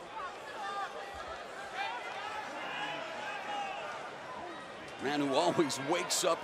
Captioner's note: crowd chatter